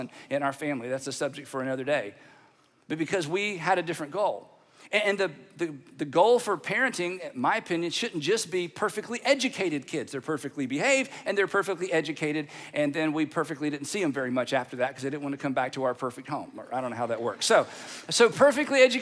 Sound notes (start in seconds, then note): none